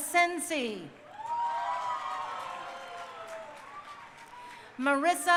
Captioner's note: crowd cheering